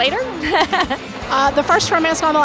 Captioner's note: laughing